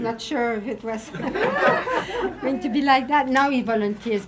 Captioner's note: audience laughing